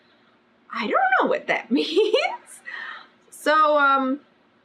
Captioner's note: laughs